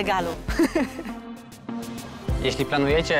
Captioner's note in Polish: śmiech